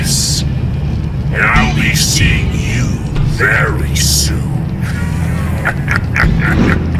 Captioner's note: cackling